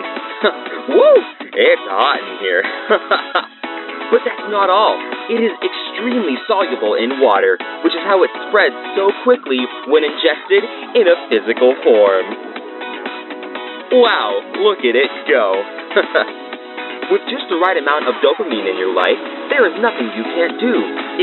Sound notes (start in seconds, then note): 2.6 chuckle; 15.9 chuckle